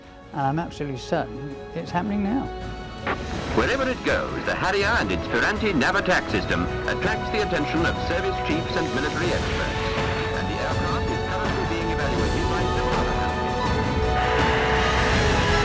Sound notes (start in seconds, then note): 3.5 TV narration